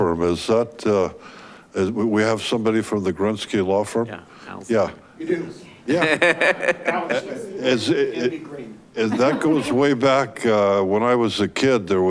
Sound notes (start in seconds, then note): 5.9 chuckling; 8.3 speaking faintly